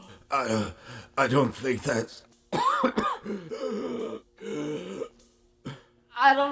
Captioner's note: coughs and gasps